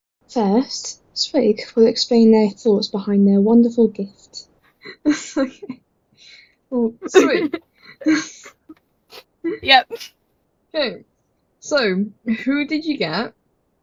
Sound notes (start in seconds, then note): 5.0 nervous Laughter; 9.6 swig